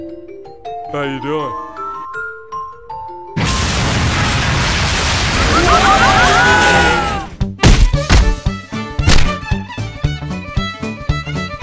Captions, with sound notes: how u doin? REKT* (all screaming)